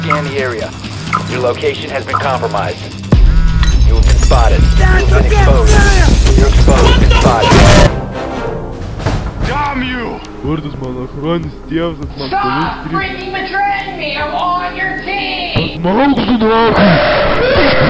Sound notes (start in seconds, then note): 2.9 french Bass; 6.2 loud footstep noises; 6.7 french Bass; 6.8 loud footstep noises; 7.2 french Bass; 7.3 loud footstep noises; 11.4 complains in Russian; 16.4 loud Russian Noises